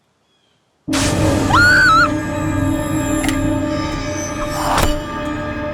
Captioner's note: startling music; Shelby screams; knife thuds